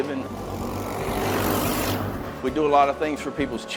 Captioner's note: engines rumble